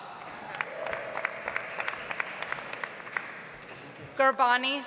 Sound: audience applauds

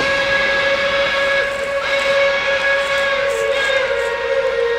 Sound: train horn blaring

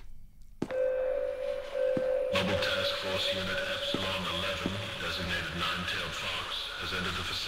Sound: bing Bing

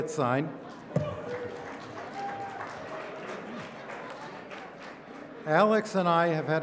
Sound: applause

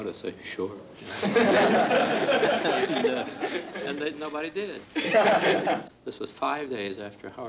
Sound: laughs

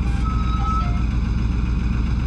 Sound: car tires screeching to a stop; car engine idling

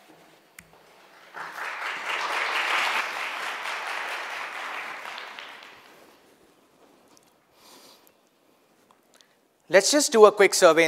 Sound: audience clapping

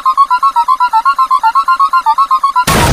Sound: demonic sounds

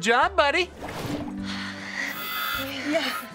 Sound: sighing

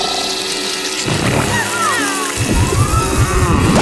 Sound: cooing

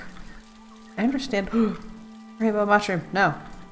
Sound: gasp

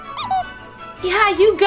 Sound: comical duck squeaks

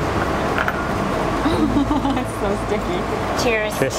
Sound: laughs

